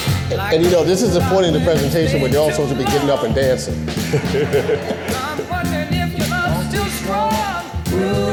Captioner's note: laughing